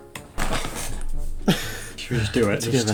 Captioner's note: chuckles; sighs